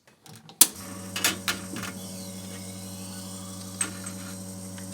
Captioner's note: machine whirring